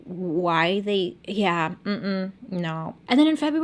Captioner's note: hums in disapproval